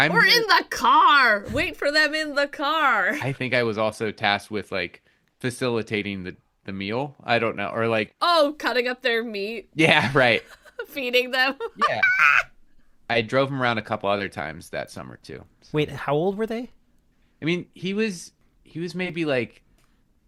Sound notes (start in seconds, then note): 11.5 laughter